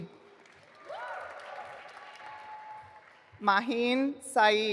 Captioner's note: audience applauding